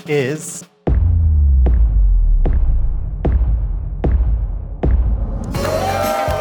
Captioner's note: dramatic sound effect; cheering